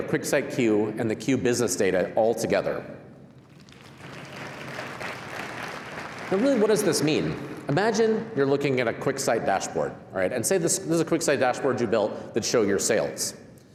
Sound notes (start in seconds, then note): 3.4 applause